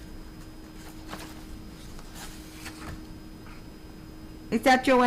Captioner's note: paper rustling